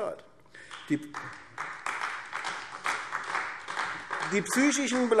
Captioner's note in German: Beifall AfD